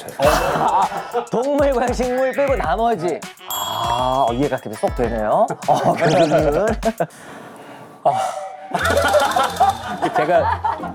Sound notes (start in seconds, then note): 8.1 sigh